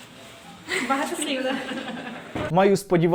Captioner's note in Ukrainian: сміються